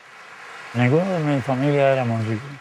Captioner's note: in Spanish